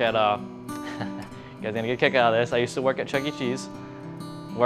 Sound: chuckles

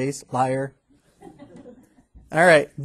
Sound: students laughing

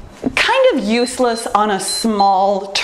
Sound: timer beeps

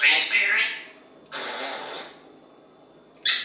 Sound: raspberry sound

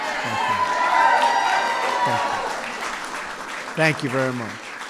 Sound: applause

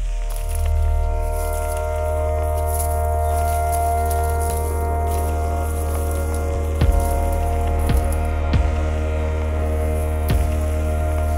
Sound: vegetative debris crunching

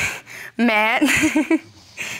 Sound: laughs

